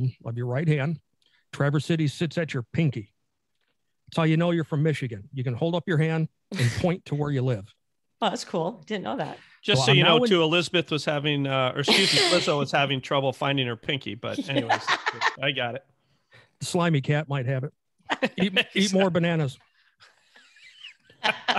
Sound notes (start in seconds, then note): 14.3 laughing; 20.4 laughing